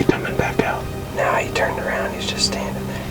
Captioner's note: whispering